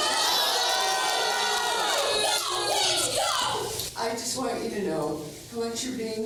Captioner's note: crowd booing